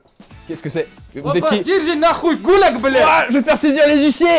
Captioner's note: russian dialect